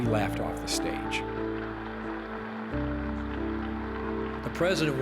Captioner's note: cheers and applause